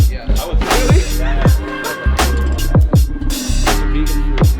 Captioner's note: laughs; upbeat music